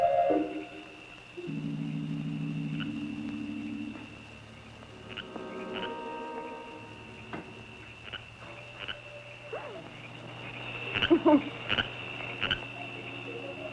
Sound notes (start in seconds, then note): 0.2 stirring music; 3.6 frogs croaking; 10.8 stirring music